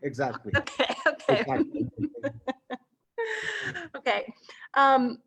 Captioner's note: both laughing